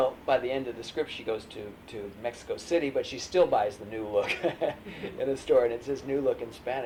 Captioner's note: laughs